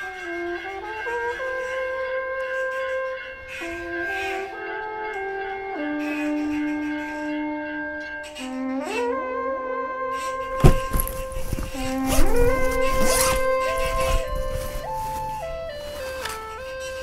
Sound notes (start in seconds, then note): 2.3 ducks quacking; 12.1 zipping